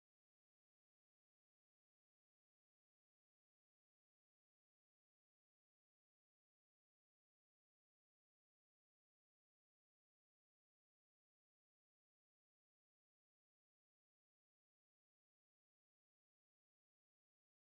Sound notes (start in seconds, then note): none